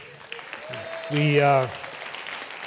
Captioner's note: applause